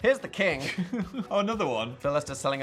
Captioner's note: Phil laughs